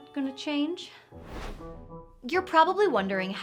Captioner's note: air whooshing; upbeat music